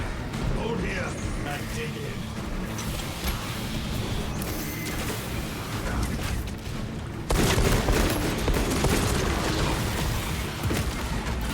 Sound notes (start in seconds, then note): 4.0 gunshots